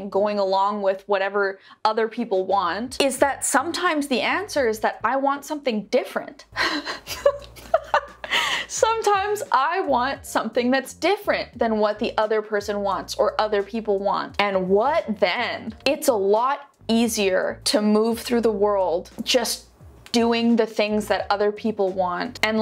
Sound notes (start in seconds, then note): 6.6 laughs